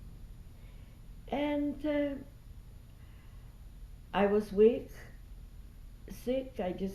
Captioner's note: pauses for 3 seconds